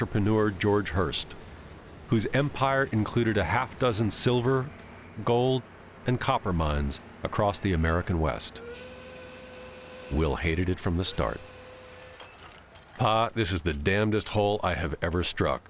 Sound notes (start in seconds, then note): 8.6 whistle blares